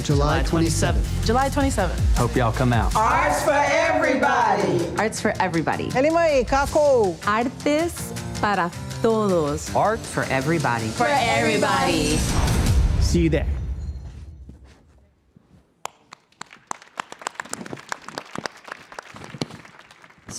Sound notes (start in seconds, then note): 7.4 speaker speaking in a foreign language; 15.8 audience applauding